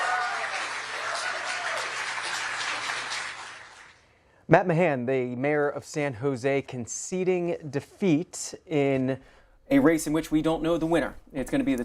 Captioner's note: applause